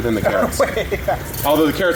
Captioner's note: laughing